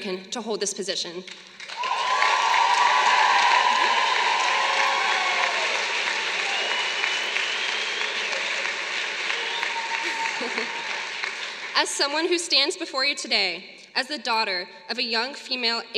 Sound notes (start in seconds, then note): 1.5 applause